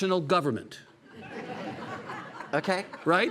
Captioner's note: audience laughing